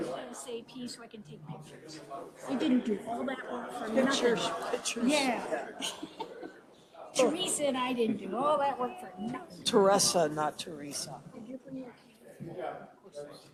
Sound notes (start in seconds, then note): 5.4 laughs